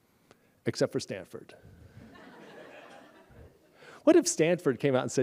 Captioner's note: laughter